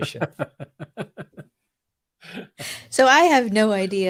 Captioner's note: laughs